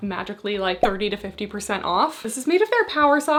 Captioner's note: graphics beeping